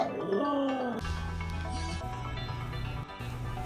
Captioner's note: howling